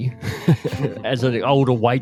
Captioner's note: both laughing